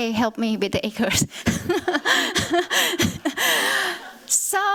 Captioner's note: laughter